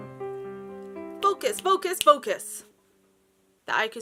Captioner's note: finger snap; snap